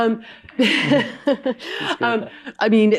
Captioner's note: laughs